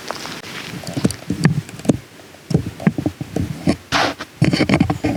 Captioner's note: microphone static